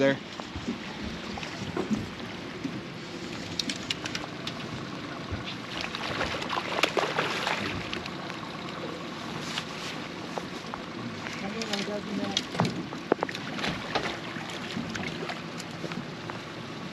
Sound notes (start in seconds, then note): 6.3 fish splashing